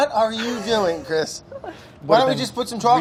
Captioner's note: chuckles